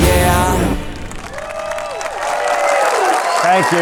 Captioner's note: audience cheering; audience applauding